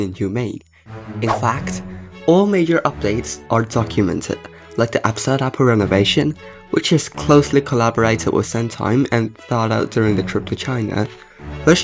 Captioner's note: swoosh